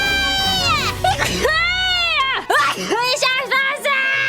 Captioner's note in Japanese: くしゃみ